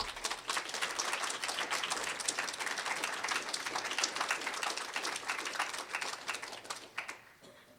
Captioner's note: applause